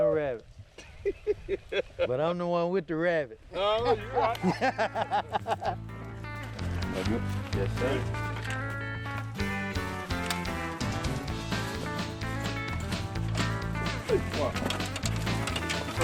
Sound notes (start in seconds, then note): 3.6 laughs; 6.9 upbeat country music